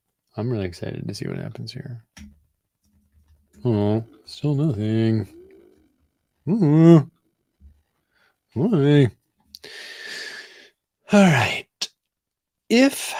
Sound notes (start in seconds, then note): 6.3 groans jokingly